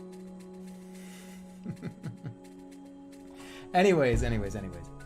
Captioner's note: giggling